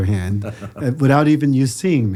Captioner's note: Andrew laughs